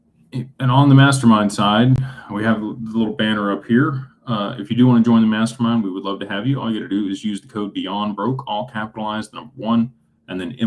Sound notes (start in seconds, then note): none